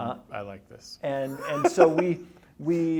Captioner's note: laughs